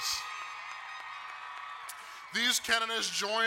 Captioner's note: crowd cheering and applauding